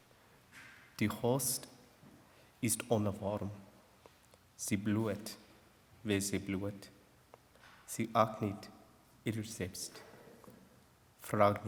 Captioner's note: non-english speech